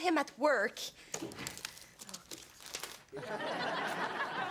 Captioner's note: pages shuffling; audience laughs